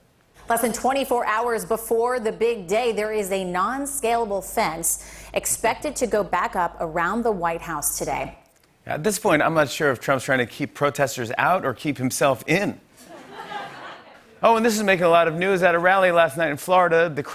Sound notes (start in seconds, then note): 13.2 light laughter